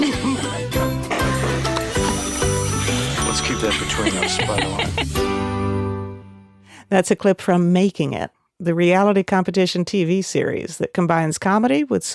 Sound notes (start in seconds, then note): 0.0 cheerful music; 0.2 chuckles; 3.6 laughs